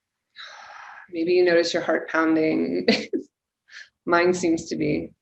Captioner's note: laughing